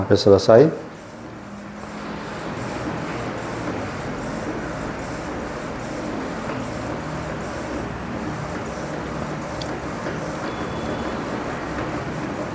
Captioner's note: printer machine noise